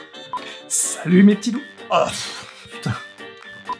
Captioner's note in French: Voix enrouée